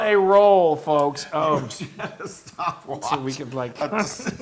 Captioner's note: laugh